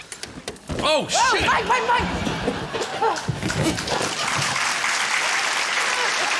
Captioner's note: balloons squeak; cheering, applause